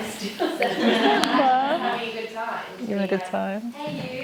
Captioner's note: laughter